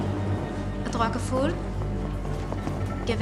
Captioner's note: speaks hebrew; repeats in hebrew